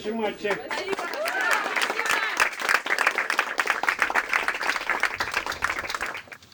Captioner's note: applause